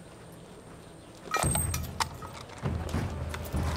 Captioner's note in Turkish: Bozuk para sesi